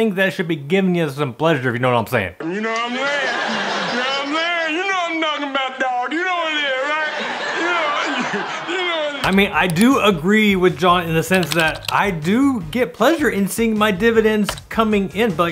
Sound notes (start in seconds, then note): 3.4 audience laughing; 7.9 audience laughing